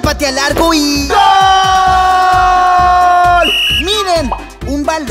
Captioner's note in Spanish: Sonido de silbato